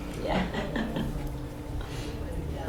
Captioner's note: laughs